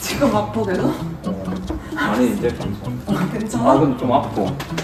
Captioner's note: laughing even though he says it hurts